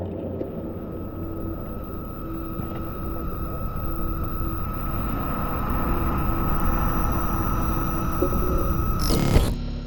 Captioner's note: buzzing, ringing intensifies; distorted noises, crackles